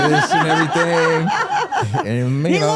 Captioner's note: hosts laughing